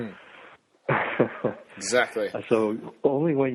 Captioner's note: giggles